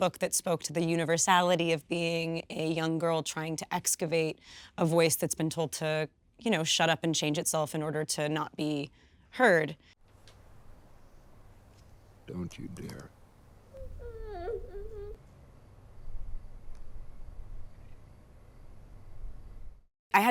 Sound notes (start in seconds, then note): 10.6 distant crickets chirping; 13.7 baby whimpering; 15.6 distant crickets chirping